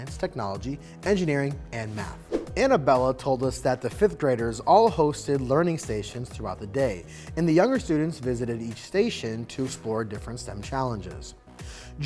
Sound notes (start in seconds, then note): 2.2 screen whooshing